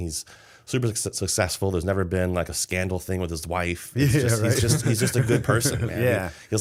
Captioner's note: laughter